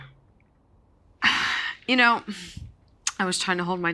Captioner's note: sigh